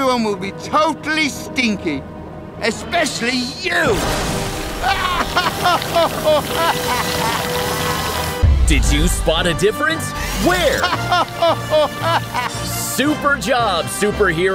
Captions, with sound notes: totally stinky, especially you! [evil laugh] Did you spot a difference? Where? [evil laugh] Super job superheroes!